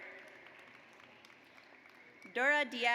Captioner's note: audience applauds